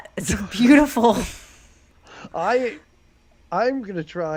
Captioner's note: both laugh